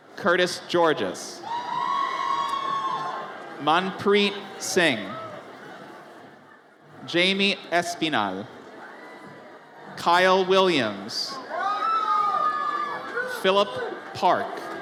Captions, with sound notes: Curtis Georges. (audience cheers) Manpreet Singh. Jamie Espinal. Kyle Williams. (audience cheers) Philip Park.